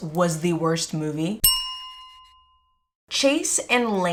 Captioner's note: bell chime